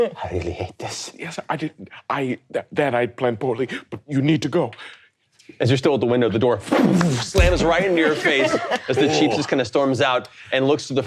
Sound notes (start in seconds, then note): 7.3 imitates door banging